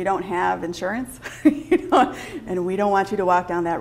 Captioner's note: laughs